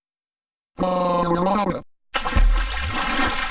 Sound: silence; harvey screaming; splashing noise

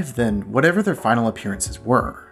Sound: none

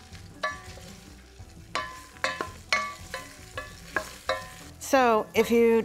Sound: sizzling; spoon clanging

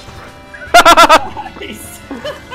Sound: laughter

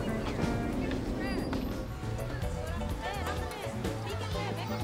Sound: people chattering

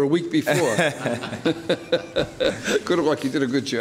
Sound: laughing

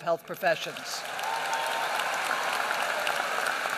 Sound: applause

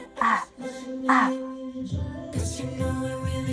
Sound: sighs

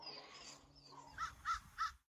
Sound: crow cawing 3 times

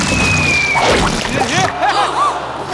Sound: gasping

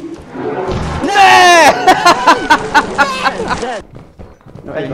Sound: laughter

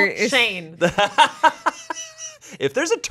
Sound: laughs

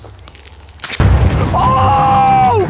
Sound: snap

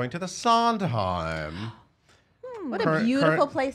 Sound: gasping

